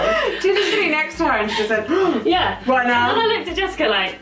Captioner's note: gasp